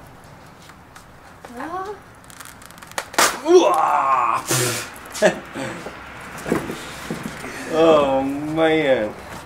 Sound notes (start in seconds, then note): 3.1 yells; 5.1 laughs